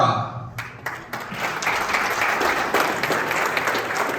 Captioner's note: applause